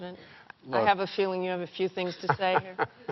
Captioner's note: laughter; chuckles